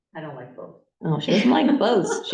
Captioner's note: laughter